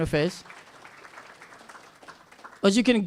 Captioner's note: applause